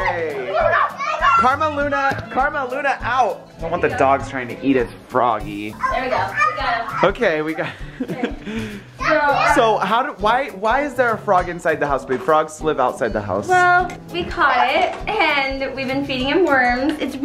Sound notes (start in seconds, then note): 0.3 gasps; 8.9 laughs